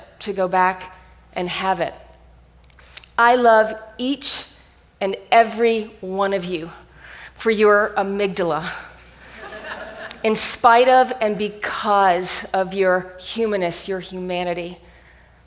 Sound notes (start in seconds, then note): 9.1 audience laughs